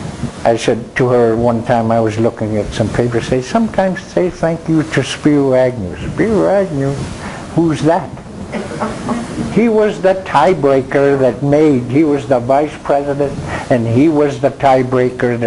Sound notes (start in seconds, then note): 8.5 crowd laughing